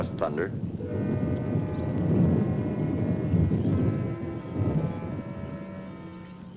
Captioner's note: thunder rumbling; mysterious music